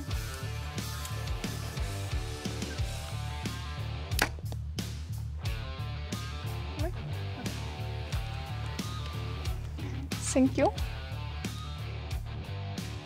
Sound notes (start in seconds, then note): 1.9 bow string thudding